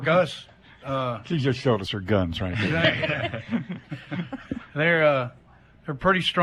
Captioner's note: laughter